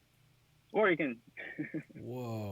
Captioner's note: laughs